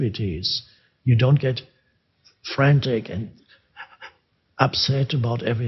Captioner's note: pants